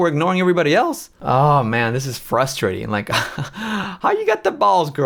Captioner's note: laughs